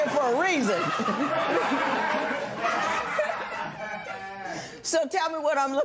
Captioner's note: laughter